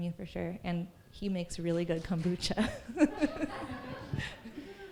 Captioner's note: laughter